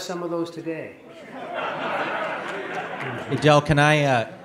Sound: audience laughing

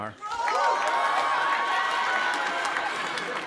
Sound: cheering

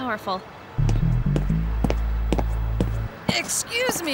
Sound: footsteps

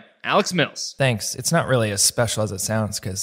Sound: offscreen Voice

